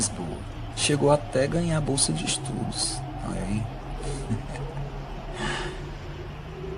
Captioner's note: laughing